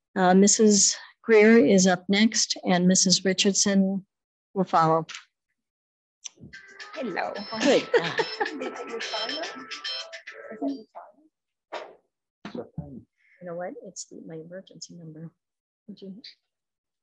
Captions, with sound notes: Mrs. Greer is up next and Mrs. Richardson will follow. - Hello. (cell phone ringing) - You know what, it's my emergency number.